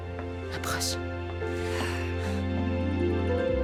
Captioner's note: sighs